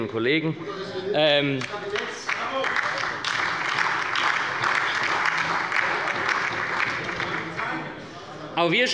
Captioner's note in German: Beifall bei der SPD und der LINKEN - Unruhe bei der CDU